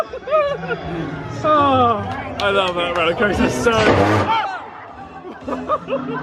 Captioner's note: laughing; shrieks; laughing